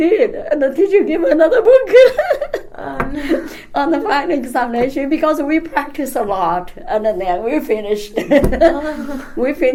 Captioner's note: laughs